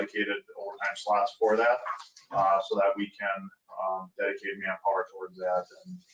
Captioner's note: speaking faintly; speaking faintly